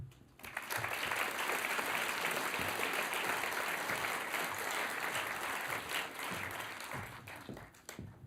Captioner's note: applause